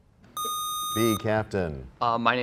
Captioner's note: sound of a buzzer